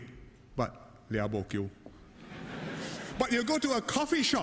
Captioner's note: laughter